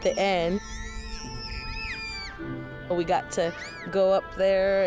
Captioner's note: kids yelling